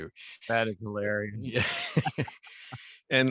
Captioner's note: laughs